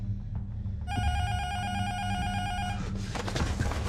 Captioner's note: intercom buzzer rings